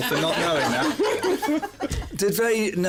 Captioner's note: laughter